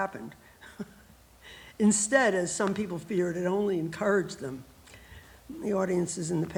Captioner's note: laughs